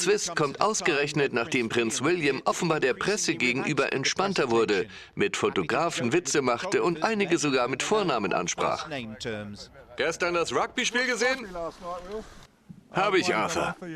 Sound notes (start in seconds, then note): 9.7 voiceover